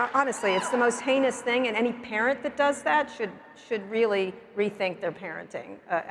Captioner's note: cheers and Applause